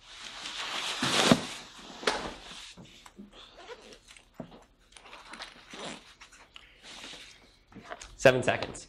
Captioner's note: rustling noise